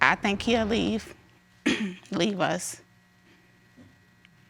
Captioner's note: clears throat